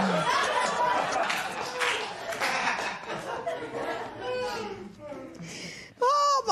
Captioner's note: scattered applause